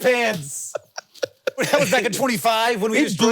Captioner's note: Jason laughing